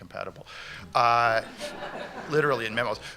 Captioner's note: laughter